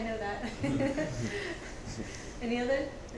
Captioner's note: laughs